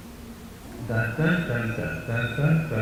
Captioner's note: humming the Jeopardy theme